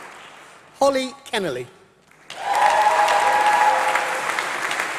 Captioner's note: applause